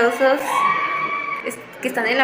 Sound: scream

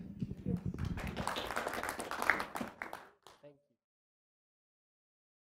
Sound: applause

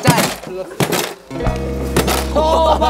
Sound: banging hard

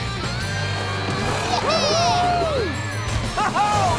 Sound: cheering

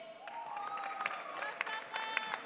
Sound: audience cheering

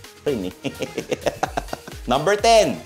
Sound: laughs

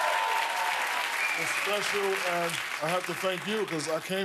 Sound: cheers and applause

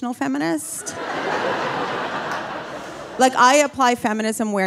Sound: audience laughing

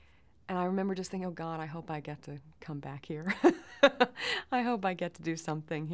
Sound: chuckles

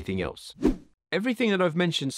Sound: air whooshing

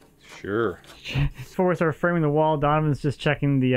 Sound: chuckles

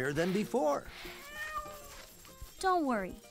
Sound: meowing

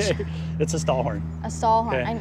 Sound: laughing

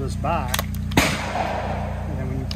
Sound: gun bangs

